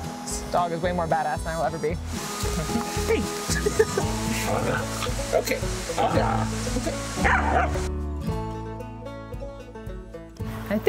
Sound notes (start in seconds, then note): 3.5 laughs; 5.9 Rufo growling; 7.2 Rufo barking; 8.4 upbeat music